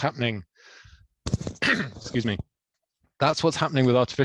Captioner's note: clears throat